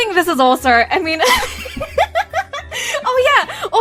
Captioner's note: laughing